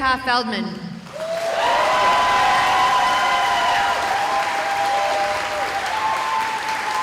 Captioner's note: cheering